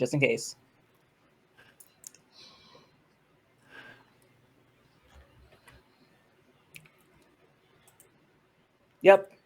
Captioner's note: anxious pause